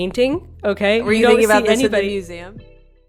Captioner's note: murmuring